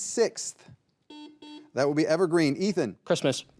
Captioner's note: buzzer buzzing